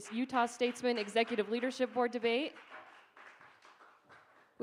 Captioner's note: applause